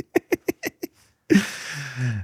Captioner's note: laughing